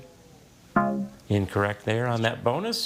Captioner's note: bell blares